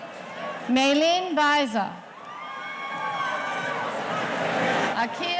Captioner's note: audience cheering